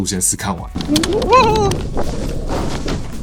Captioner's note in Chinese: 鬼叫